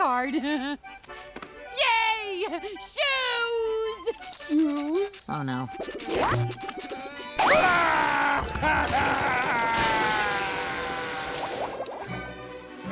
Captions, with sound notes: [laughing] Yay! Shoes! - Shoes... - Oh no. [crying]